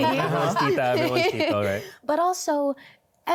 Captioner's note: laughter